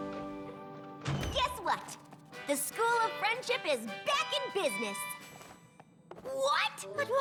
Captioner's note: door opens